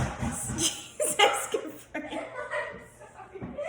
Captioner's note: laughs